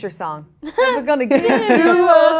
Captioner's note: Mary laughs